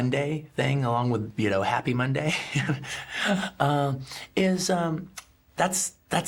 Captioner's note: laughing